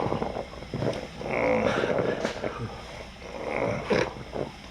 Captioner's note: crying